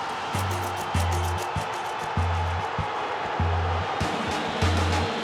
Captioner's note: crowd roaring